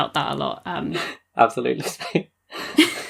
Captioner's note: laughing